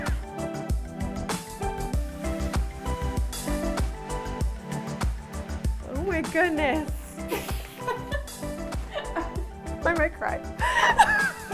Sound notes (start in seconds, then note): 0.2 upbeat electronic music; 7.2 laughing